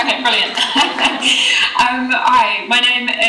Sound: laughing

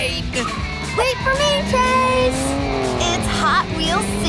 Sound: engine revving

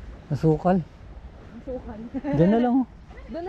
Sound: laugh

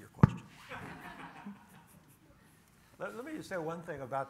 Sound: audience laughs

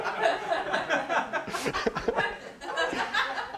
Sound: laughter

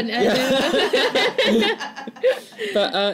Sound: laughter

